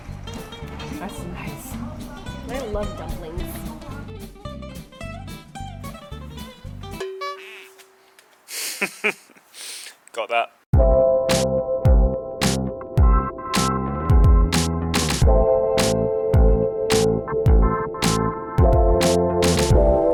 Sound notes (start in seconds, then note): 7.2 horn & kazoo effect; 8.5 laughs